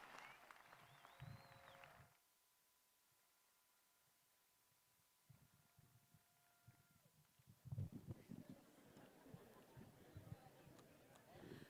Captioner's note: cheers and applause